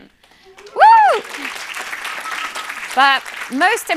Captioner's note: cheering and applause